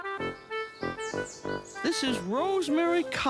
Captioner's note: birds chirp